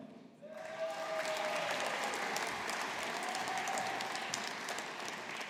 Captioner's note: audience applauding